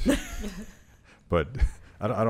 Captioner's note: laughing